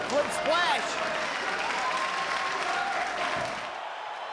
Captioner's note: spectators cheering and applauding; spectators cheering